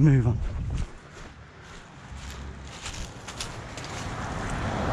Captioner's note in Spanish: sonido de un auto acercándose